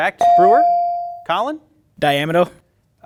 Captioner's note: bell ringing